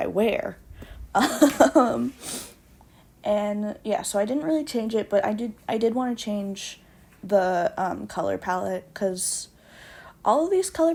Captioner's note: laughs